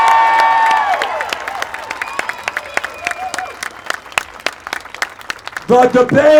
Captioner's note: applause